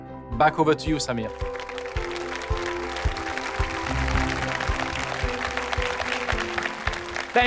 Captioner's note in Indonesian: Tepuk tangan